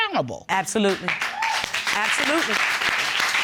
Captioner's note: audience applauding